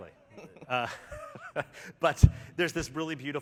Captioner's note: laughter